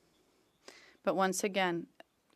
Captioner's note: speaking French